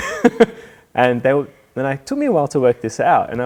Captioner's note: laughing